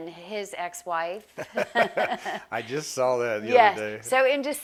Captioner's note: laughs